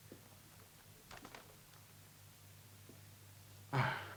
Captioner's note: paper rustles